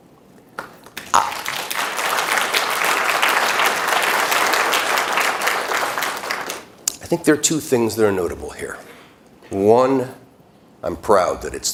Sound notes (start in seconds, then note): 7.8 applause